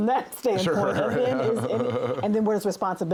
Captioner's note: laughs